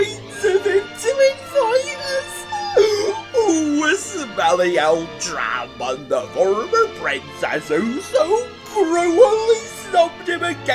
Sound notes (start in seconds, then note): 2.5 squeal!